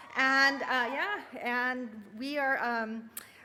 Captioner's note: cheering